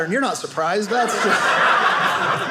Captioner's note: audience laughing